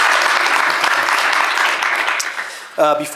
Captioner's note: applause